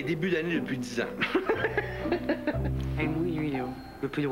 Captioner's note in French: Rire